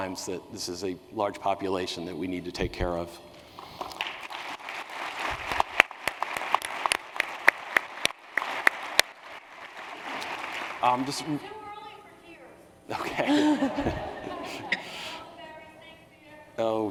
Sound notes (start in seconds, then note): 3.5 applause; 12.9 laughter